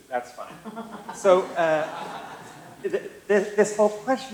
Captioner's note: laughter